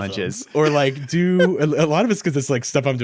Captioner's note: laughing